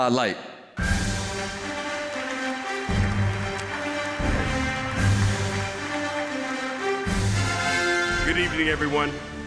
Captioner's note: applause